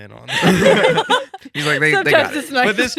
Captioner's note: laughing